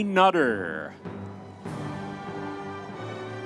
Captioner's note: audience members cheering